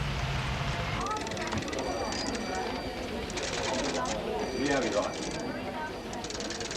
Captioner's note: office personnel chatting; phones ringing